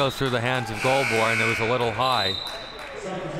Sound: buzzer sounding

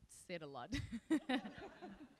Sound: laughs

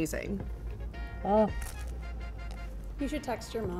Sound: groans

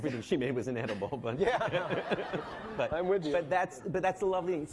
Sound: laughing

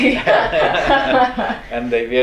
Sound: laughs

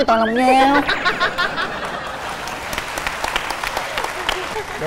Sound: laughing; applause

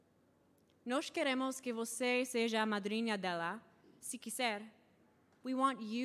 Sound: speaking in foreign language

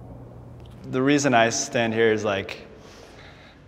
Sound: sighs

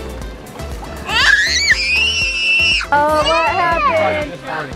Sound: cheerful music; screams

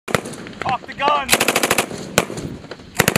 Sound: rapid gunfire

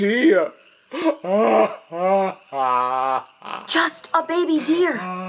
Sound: crying

